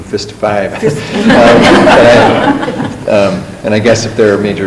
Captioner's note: laughing